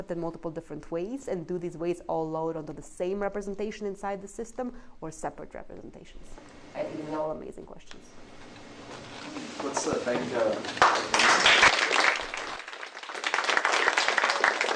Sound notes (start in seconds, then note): 10.7 applause